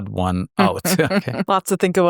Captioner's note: chuckles